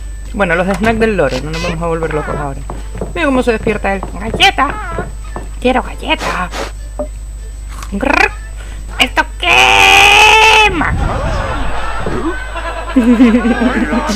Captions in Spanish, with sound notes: Bueno, los snacks del loro. No nos vamos a volver locos, ahora. ¡Mira cómo se despierta él! [IMITANDO AL LORO] ¡Galleta! ¡Quiero galleta! [IMITANDO AL LORO] ¡Grup! ¡Esto queeeeema! [RISAS]